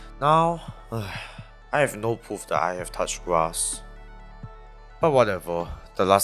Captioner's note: sigh